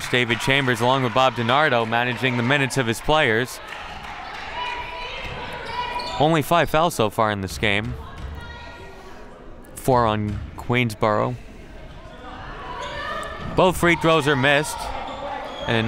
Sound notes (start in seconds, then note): 5.0 crowd murmuring